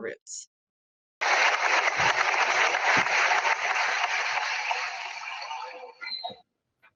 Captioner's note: applause